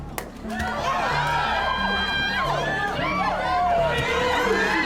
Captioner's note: people screaming